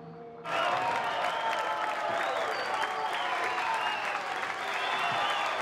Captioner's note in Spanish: aplausos y exclamaciones